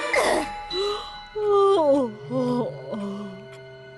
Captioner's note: straining; yawns